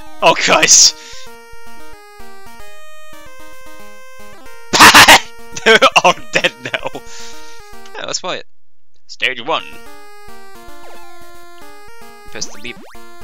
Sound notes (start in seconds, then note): 5.5 laughs at a tragic accident; 5.6 still laughing